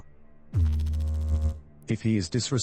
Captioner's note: electrical noise